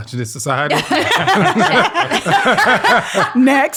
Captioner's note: all laugh